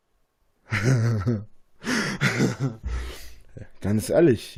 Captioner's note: imbecile giggle